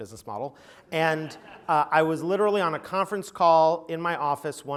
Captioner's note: laugh